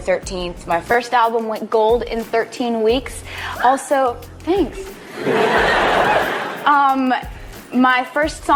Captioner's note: audience member "woo"s; audience laughs